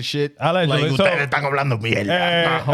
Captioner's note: speaking In Foreign Language